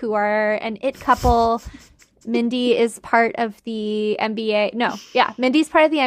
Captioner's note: laughing